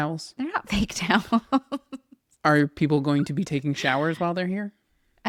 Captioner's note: laughs